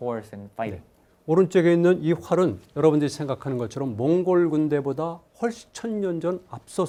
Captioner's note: speaking in Korean